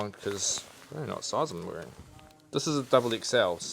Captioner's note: mutters